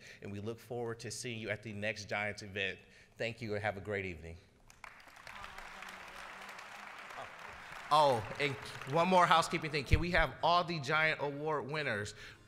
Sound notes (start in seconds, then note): 4.6 applause